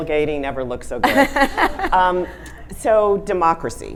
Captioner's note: audience laughing